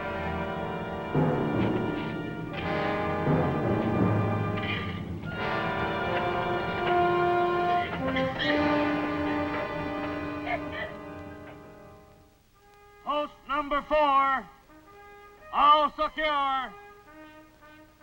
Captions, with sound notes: (prisoners cough) - Post number four! (rousing bugle music) All secure!